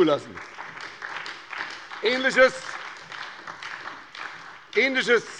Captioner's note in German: Beifall bei der SPD